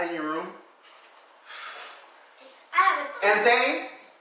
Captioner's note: sighs